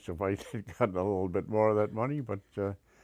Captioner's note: laughs